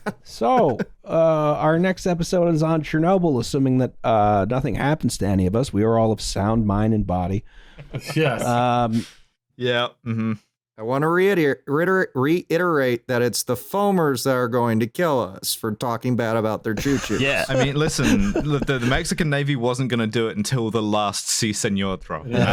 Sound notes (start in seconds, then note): 0.0 laughter; 7.8 chuckles; 22.3 laughing; 22.3 laughter